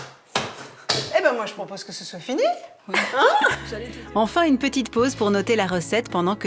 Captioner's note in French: rires